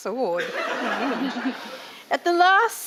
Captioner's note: audience laughing